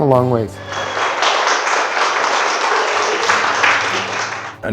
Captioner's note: cheering